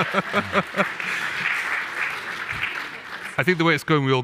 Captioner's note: laughs; audience applauding